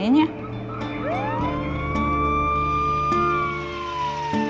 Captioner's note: siren blares